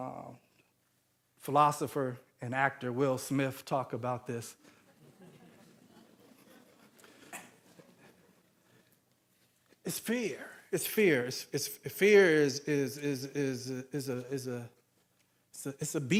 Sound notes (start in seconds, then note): 4.8 audience laughing